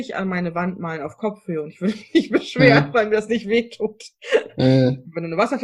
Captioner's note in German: lacht